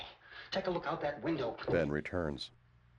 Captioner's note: thud